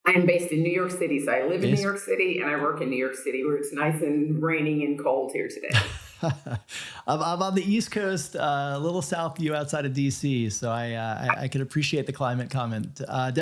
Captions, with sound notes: - I am based in New York City. So I live in New York City. And I work in New York City where it's nice and raining and cold here today. - (laughs) I'm on the East coast, little south you outside of DC. So I could appreciate the climate comment.